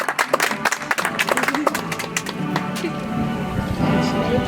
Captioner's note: audience applauds